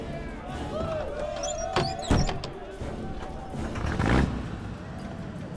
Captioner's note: people on the bus cheering